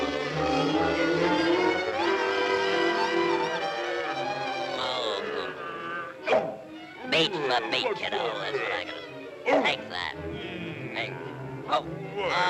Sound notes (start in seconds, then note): 0.1 suspenseful music; 6.3 head thuds; 10.8 Sinbad grumbles